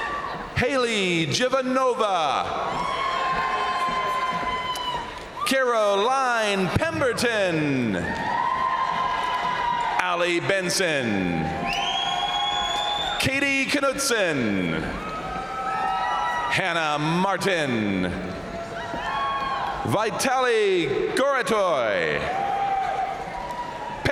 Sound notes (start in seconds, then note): 2.6 crowd cheering; 7.7 crowd cheering; 7.9 crowd applauding; 11.8 crowd cheering; 14.9 crowd cheering; 17.8 crowd cheering; 18.3 crowd applauding; 22.0 crowd cheering